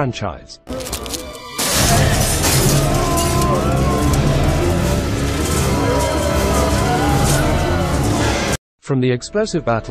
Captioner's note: zombie noises